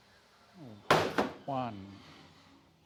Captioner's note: crate hitting floor